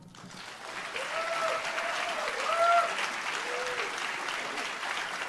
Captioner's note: audience applauds and cheers; audience applauds